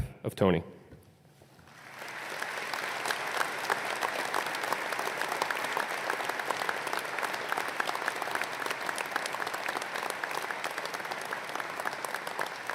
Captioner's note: applause